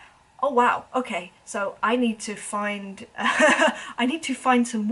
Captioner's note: laughs